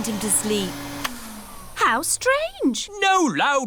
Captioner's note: whirring stops